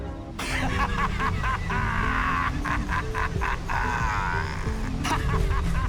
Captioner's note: fisherman laughs